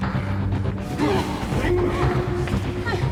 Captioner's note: both grunting, breathing heavily